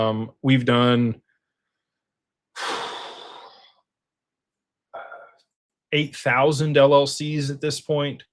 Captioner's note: sighs